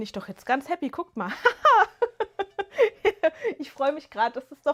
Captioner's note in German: gelächter